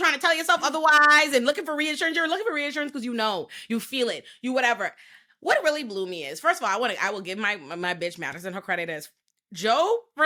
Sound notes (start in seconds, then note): none